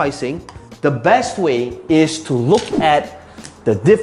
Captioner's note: tapping marker; air whooshing